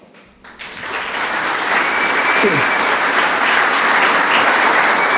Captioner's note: audience applauds